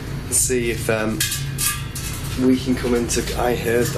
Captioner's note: soft clanking